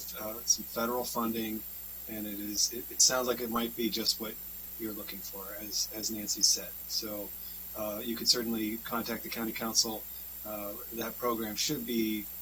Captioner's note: spanish